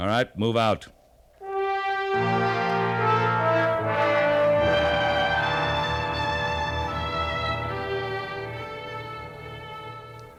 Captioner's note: siren wailing